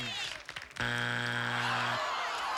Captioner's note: buzzer